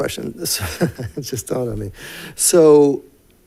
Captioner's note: laughs